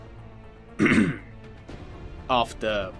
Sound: cough

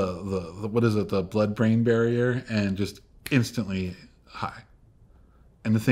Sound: snaps

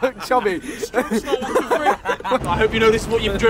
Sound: laughing

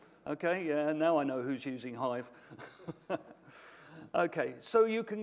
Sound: chuckles

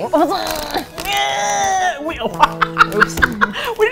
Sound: strained; both laugh

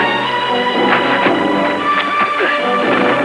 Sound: grunting

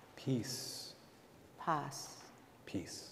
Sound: speaking in Spanish

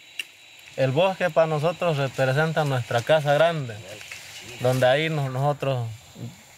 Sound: speaking in foreign language

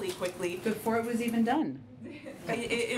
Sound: laughter

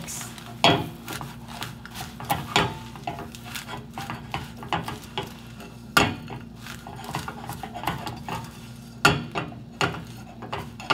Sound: crunching

